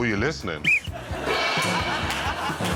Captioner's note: whistle blows